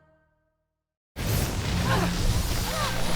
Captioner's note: magical buzzing